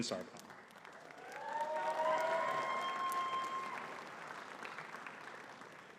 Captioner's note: audience cheering and clapping